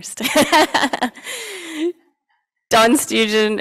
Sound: laughing

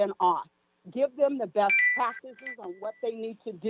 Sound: chime

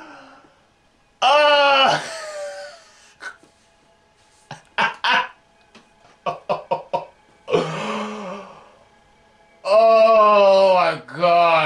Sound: scared Laugh

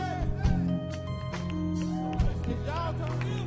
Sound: audience clapping

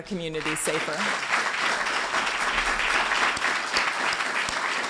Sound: applause

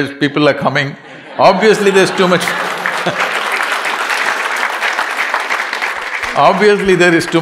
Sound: laughter/Applause

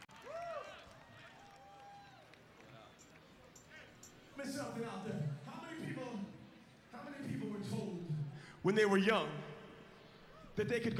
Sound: applause

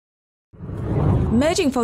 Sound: air whooshing

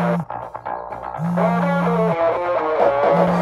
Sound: cell phone ringing

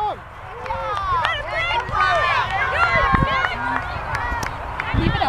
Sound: cheering and clapping

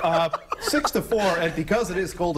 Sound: laughter

